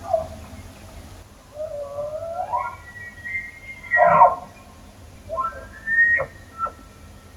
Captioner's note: sounds of elk bugling